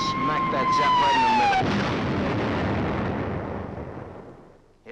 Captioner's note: explosion